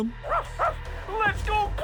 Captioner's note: game makes barking noise